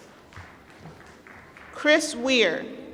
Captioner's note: applause